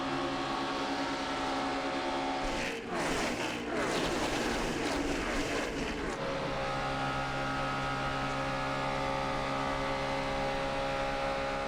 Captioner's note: engine